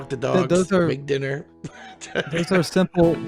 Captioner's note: chuckles